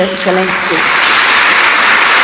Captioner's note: applause